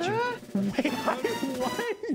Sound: laughing

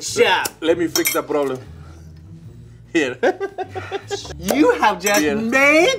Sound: laughs

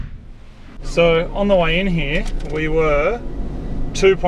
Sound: paper rustling

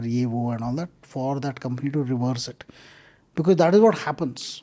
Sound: speaks Hindi

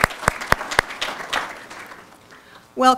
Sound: applause

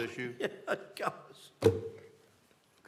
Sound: laughter

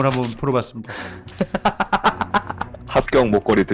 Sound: laughter

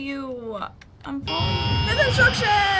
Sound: in game: static buzzing

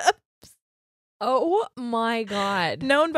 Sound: laughing

